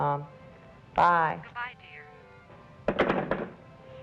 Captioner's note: on phone